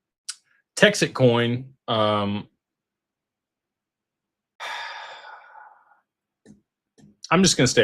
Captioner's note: sighs and gasps